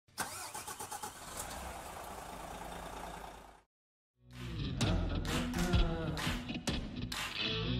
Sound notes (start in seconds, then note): 0.2 vehicle engine roaring; 4.3 blues music playing